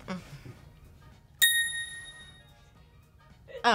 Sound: bell rings

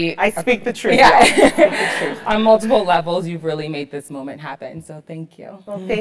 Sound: laugh

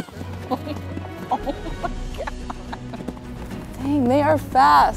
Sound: lively music; laughs

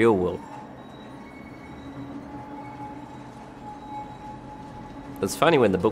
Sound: tram sounds

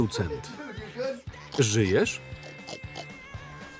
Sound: snorting

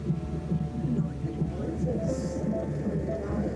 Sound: heart beating

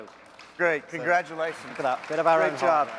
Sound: applause

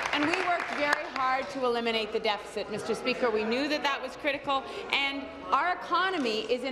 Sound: applause

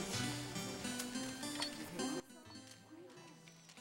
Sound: beeping

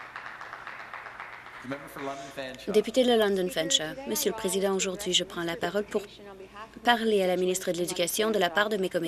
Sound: some Applause

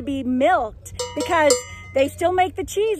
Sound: cowbell clangs

